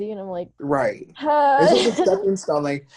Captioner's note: chuckles